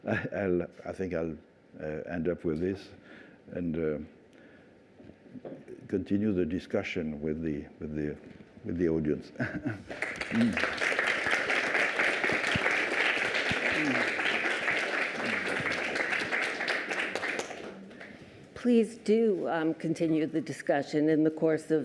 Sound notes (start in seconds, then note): 9.4 laughter; 9.7 applause